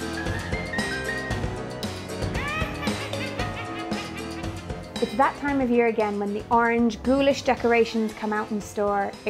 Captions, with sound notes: [CREEPY LAUGHTER] It's that time of year again when the orange, ghoulish decorations come out in store.